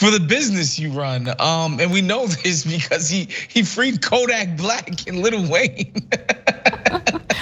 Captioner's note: laugh